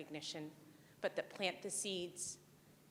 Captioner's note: none